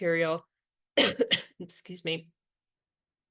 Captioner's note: coughs